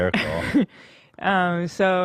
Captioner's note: laughs